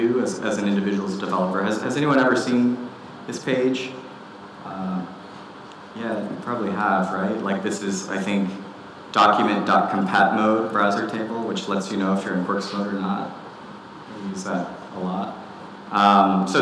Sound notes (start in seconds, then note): none